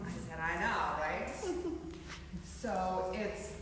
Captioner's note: yoga trainees chuckling